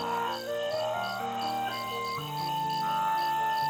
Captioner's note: seagulls calling